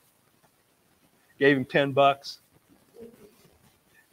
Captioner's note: laughs